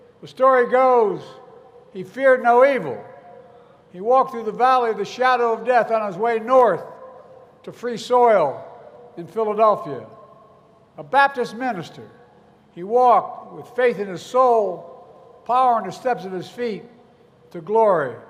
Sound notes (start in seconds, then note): none